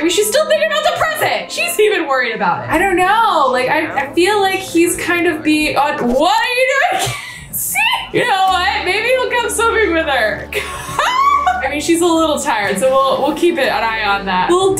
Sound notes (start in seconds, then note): 6.5 laughs; 10.4 laughs